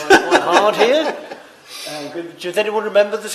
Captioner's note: laughter